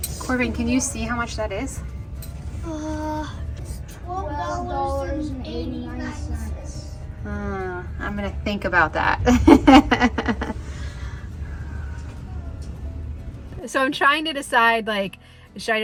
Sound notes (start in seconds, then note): 12.2 laughs